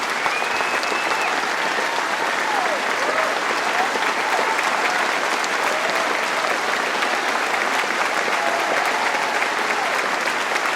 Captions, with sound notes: Government is within our grasp, let's go out and win it! Thank you. (Applause)